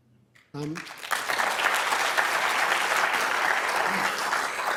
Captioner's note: crowd applauding